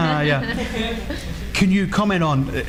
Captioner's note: audience laughs